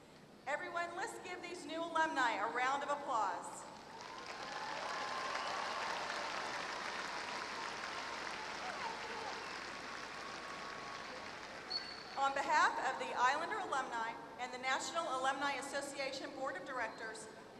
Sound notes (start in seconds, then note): 3.7 applause